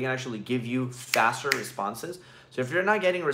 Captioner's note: fingers snapping